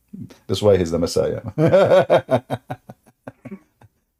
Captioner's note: Ketawa